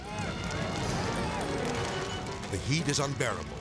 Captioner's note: fire rustling; ominous music